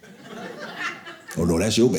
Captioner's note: audience laughing